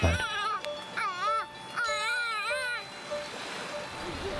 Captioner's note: baby shouting